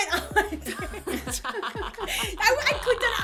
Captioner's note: laughter